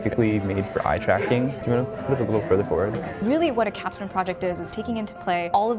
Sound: chatter

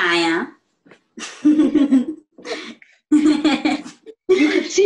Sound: snickering

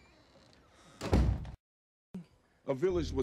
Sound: door Closes

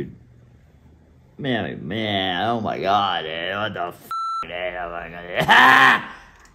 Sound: beep; laughs

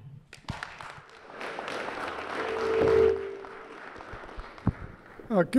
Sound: applause

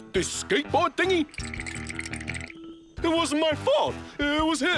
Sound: chattering

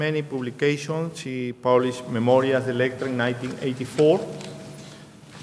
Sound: speaking in a foreign language

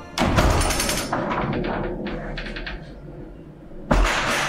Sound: door creaking

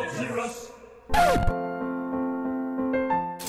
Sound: record scratch

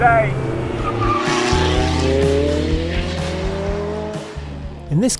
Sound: car engine roars

